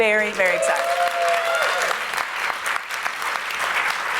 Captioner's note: applause